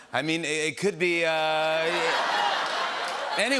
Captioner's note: laughter